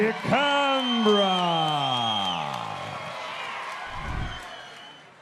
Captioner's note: audience cheering